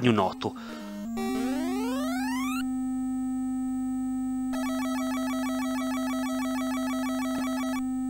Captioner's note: irritating buzz